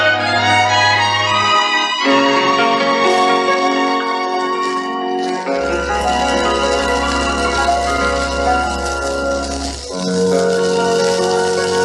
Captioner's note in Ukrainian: оплески